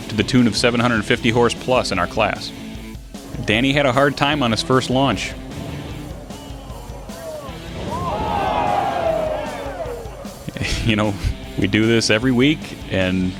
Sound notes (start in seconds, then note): 8.4 crowd Of People